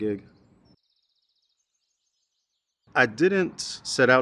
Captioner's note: birds chirping